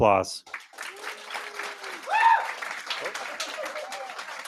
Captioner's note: applause